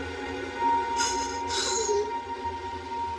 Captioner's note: sobs